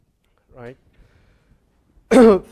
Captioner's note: cough